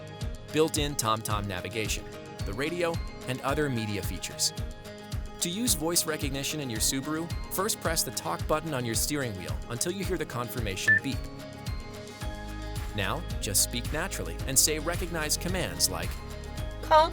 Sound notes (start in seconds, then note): 10.8 instrument panel beeps